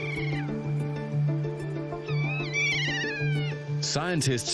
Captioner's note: keas trilling